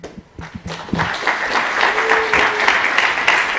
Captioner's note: applause